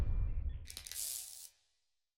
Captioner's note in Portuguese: estática